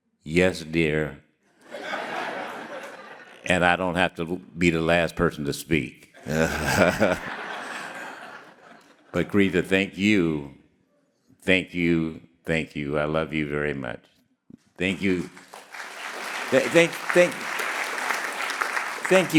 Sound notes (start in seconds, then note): 1.6 audience laughing; 6.2 all laughing; 14.8 audience clapping